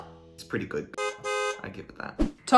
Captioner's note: car horn beeping